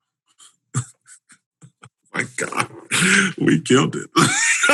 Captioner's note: chuckles